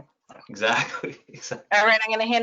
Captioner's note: laughs